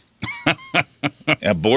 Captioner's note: laughing